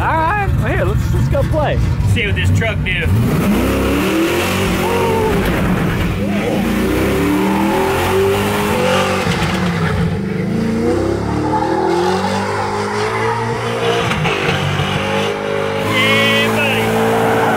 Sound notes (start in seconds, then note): 3.8 engine roaring; 7.6 tires squealing; 17.3 tires squealing